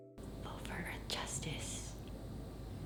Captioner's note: whispering